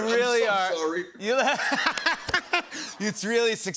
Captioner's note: laughter